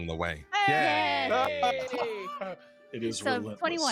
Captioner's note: group cheers